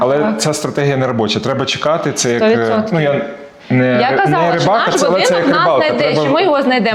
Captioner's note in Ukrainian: сміх